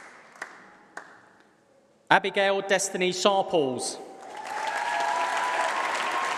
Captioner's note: applause